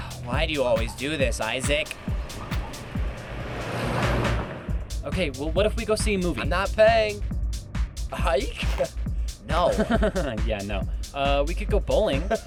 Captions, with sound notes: Why do you always do this Isaac? (car revving) Okay well, what if we go see a movie? I’m not paying. A hike? No. Yeah. No. We could go bowling.